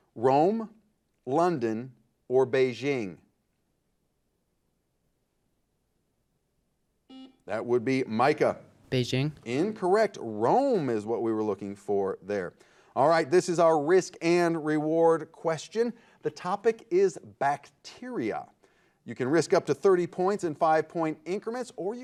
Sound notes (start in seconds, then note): 7.1 buzzer beeping